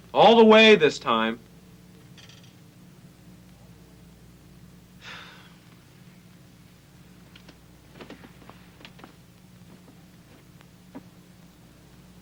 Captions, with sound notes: All the way this time! (Casey sighs)